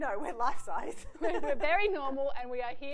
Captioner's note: laughs